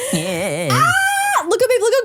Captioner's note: shrieks